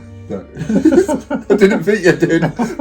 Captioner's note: both chuckling